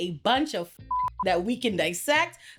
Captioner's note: beep